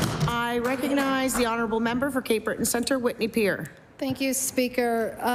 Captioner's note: applause